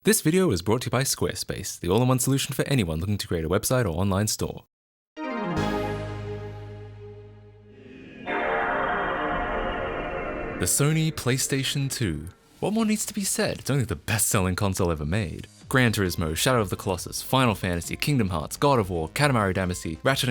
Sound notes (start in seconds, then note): 5.2 intro sound effect